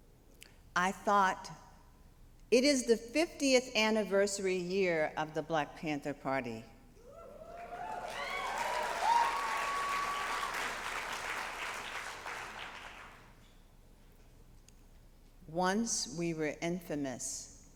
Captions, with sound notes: I thought, It is the 50th anniversary year of the Black Panther party. [APPLAUSE] Once we were infamous,